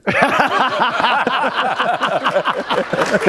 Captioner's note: laughter